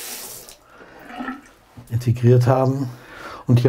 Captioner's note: splashing